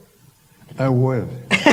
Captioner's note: laughter